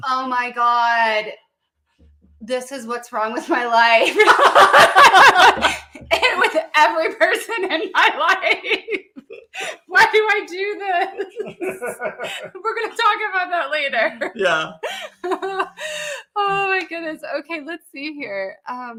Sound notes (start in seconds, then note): 4.0 laughing